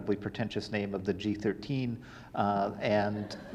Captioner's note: audience laughing